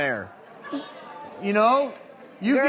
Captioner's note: audience laughing